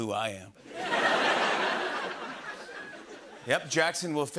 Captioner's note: laughter